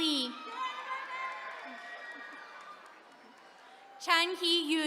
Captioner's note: attendees cheering